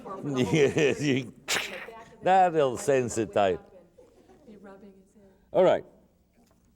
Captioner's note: laughter; "Cracking" noise